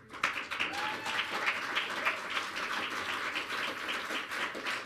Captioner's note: audience clapping